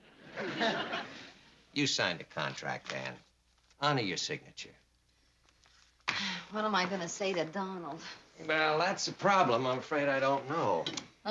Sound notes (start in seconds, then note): 6.1 sighing